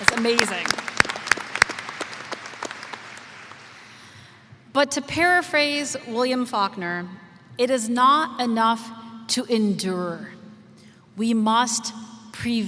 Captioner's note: applause